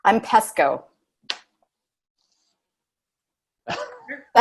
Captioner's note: laughs